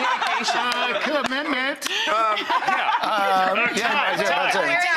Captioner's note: audience laughs; laughs